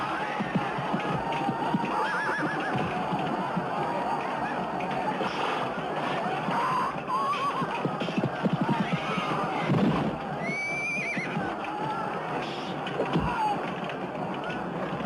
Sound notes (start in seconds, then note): 10.6 horse squealing